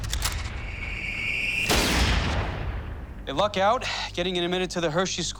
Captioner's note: gunshot